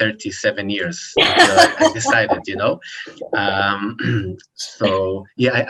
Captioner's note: laughs